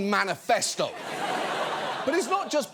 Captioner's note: audience laughs